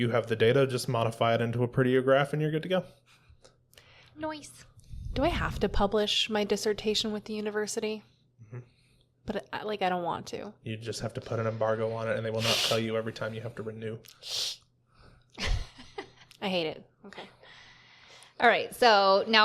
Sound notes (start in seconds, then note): 11.3 hisses in dislike; 16.4 hisses again